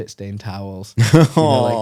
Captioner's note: laughs